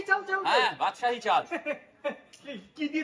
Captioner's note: laughing